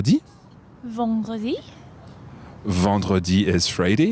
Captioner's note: speaks in foreign language